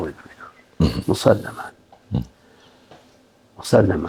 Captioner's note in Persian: گلویش را صاف می‌کند